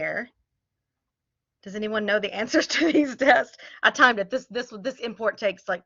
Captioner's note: laughter